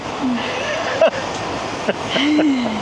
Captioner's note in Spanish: risas